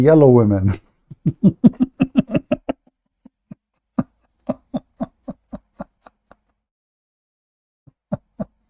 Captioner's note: Ketawa